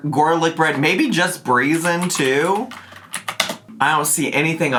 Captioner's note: keys clacking